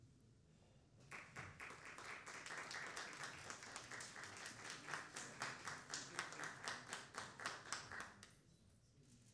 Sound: clapping

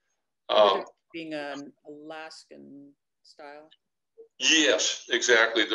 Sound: mutters

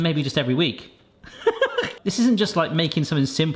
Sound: laughs

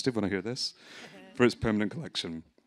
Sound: audience laughing

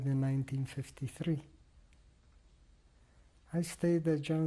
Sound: pauses for 3 seconds

